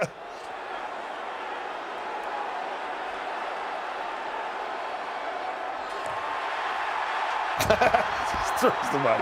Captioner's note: laugh